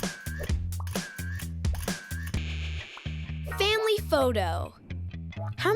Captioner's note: camera clicks repeatedly